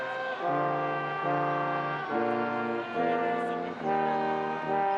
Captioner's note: stately music continues; graduates chattering